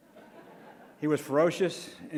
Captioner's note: crowd laughs